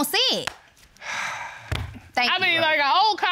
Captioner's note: sighs